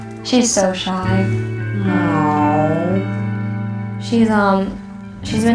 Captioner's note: dog coughing